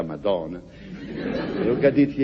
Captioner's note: laughs